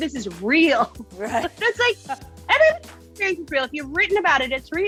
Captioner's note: laughs